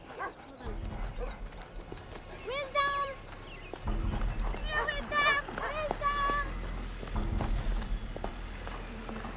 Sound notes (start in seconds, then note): 4.5 dog barking